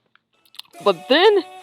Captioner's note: lip smack